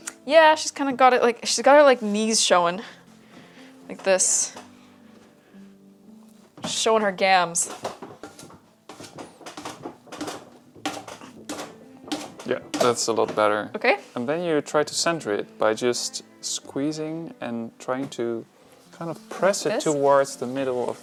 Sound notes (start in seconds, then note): 9.7 clunking